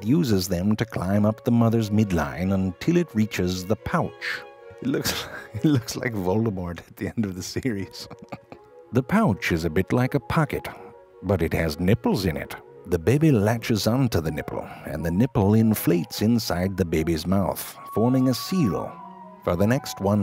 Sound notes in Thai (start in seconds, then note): 4.8 หัวเราะ